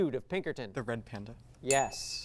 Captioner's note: ding